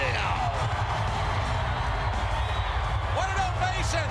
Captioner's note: crowd cheers